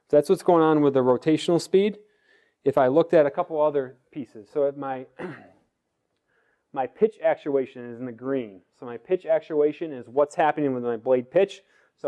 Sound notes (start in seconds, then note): 5.1 cough